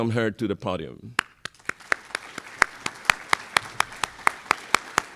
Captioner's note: applause